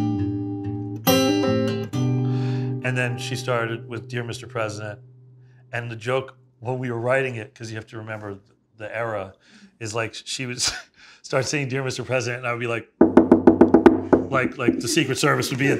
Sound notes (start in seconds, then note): 14.2 knuckles rapping